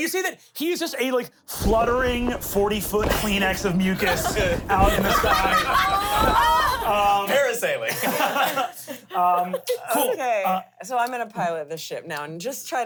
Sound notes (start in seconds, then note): 7.9 laughs